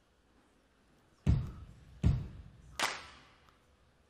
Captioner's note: clap